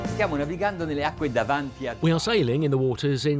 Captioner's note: speaking in a foreign language